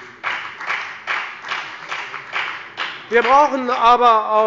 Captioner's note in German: Beifall bei der FDP